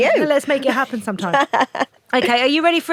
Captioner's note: Ruth laughs